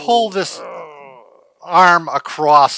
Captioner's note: grunting